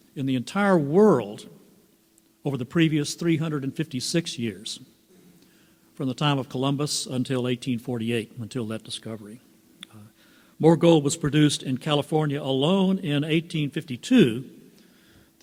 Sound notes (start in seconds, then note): none